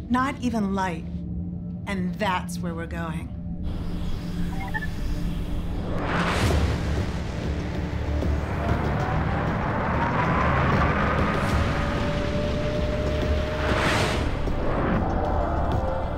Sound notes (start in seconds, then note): 3.7 engine runs, machine chirps